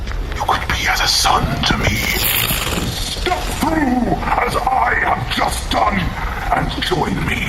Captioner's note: steps through the portal with a crackle